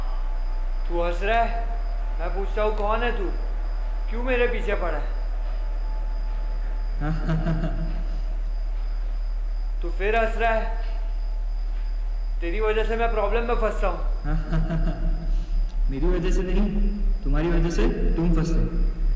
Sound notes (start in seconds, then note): 7.0 laughs again